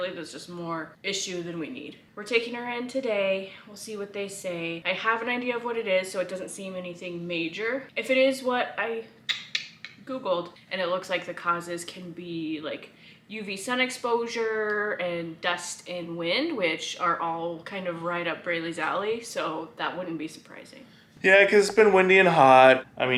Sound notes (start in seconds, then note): 9.3 mimics keyboard tapping